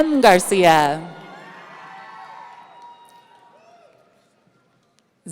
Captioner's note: audience cheering